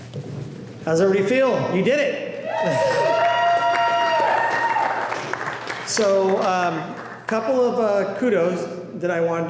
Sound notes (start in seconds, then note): 3.0 applause